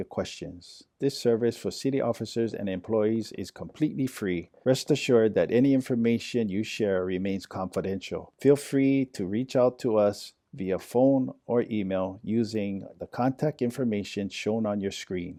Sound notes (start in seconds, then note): none